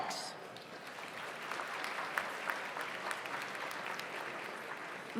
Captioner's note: audience applauds